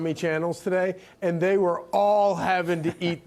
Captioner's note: laughter